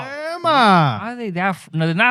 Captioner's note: speaking In Foreign Language